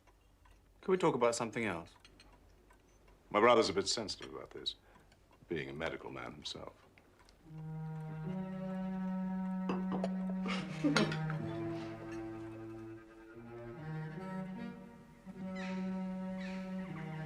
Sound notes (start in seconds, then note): 10.3 Tertawa; 14.1 Burung berkicau